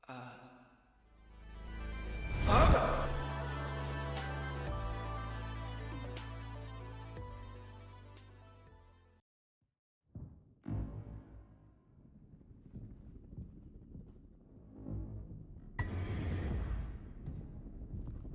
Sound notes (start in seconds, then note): 2.4 screams